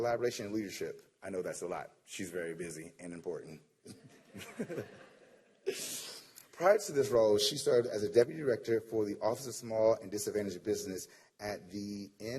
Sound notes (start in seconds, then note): 7.1 laughter